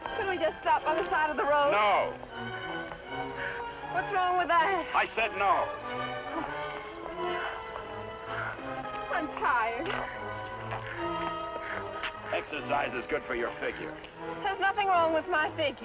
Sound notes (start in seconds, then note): 6.3 panting